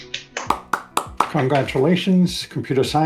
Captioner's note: all applauding